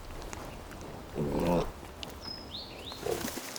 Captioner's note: boar grunts